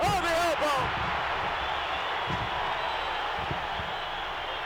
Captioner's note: audience cheering